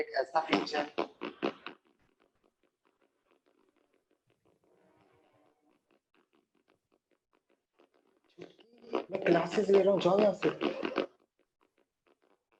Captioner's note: speaking in Urdu; offscreen, man imitates flatulent sounds